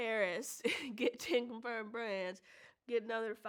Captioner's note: chuckles